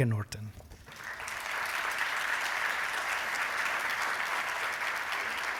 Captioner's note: applause